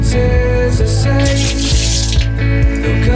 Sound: water splashing

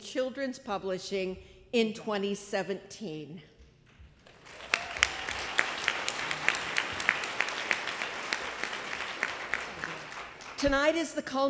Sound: applause

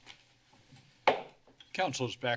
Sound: taps mic; hits gavel

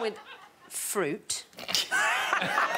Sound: all laughing

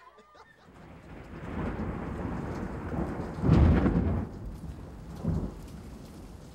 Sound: thunder

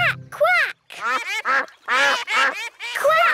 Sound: quacking

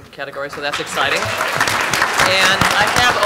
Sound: applause

